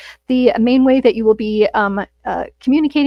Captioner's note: none